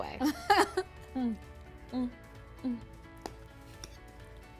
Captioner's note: laughing